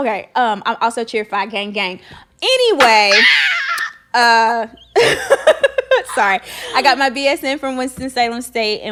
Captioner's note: laughing